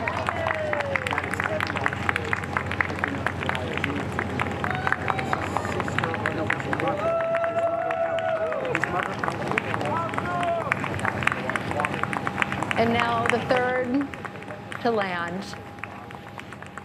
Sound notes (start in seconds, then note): 4.6 applause